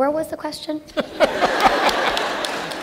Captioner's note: laughter